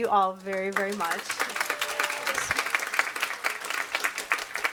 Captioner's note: audience applauds